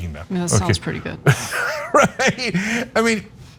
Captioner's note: laugh